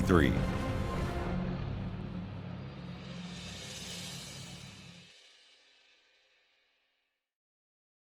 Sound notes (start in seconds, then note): 0.7 airplane engine roaring